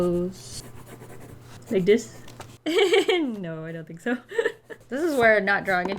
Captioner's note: laughs